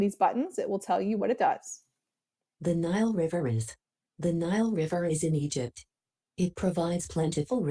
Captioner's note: Read and Write toolbar reading out loud